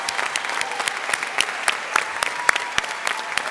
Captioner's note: applause